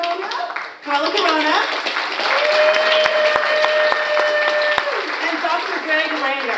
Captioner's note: audience applauds and cheers